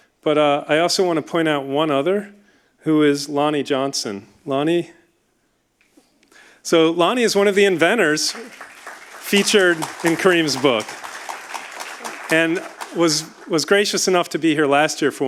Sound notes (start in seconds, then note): 7.8 audience applauding